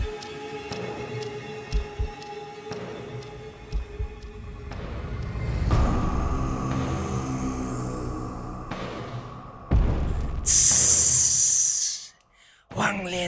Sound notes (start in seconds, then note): 9.9 hissing